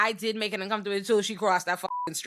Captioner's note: beep